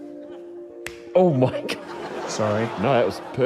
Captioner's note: slap!; laughs